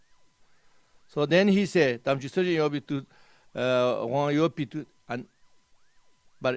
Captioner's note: tibetan